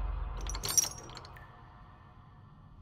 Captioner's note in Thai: เสียงโซ่เหล็ก